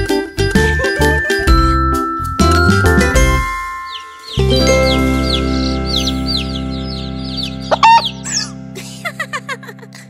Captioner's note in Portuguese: Som de galinhazinha; Som de pintinho; Som de galinhazinha; Som de pintinho